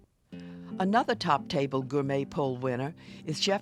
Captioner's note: voiceover